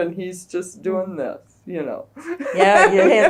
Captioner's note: laughs